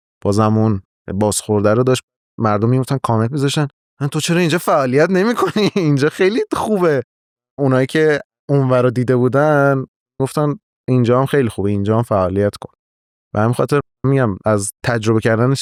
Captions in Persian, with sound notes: بازم اون بازخورد رو داشت. بعد مردم می‌رفتن کامنت می‌ذاشتن تو چرا این‌جا فعالیت نمی‌کنی؟ (خنده) این‌جا خیلی خوبه. اون‌هایی که اون‌ور رو دیده بودن، می‌گفتن، مثلاً این‌جا هم خیلی خوبه این‌جا هم فعالیت کن. به همین خاطر مثلاً می‌گم از تجربه کردن